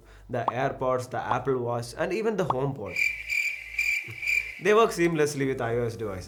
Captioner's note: crickets chirping